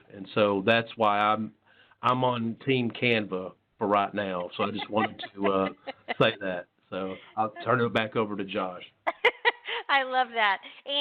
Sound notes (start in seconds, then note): 4.2 laughs; 9.1 laughs